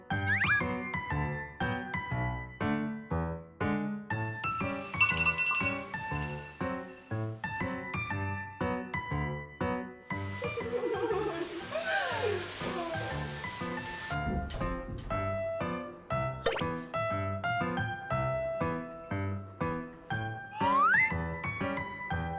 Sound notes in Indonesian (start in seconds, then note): 10.4 tertawa